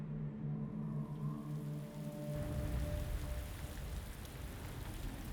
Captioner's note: rain pouring